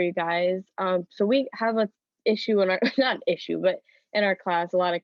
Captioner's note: laughter